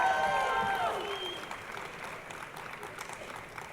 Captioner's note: crowd applauding